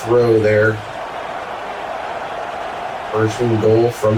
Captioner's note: crowd Noises